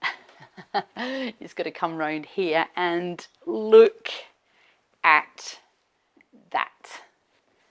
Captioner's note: chuckles